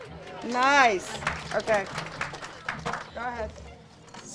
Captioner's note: audience cheers and applauds; audience applauds